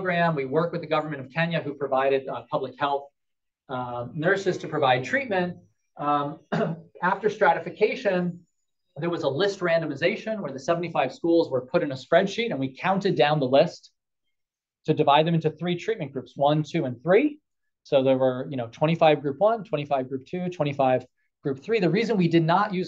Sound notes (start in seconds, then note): 6.4 cough